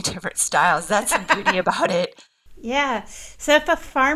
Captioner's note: laughs